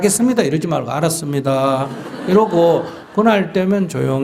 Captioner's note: audience Laughter